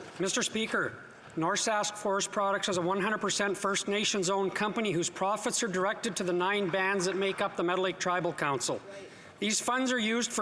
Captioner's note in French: voix de l'interprète